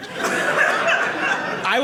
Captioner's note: audience laughing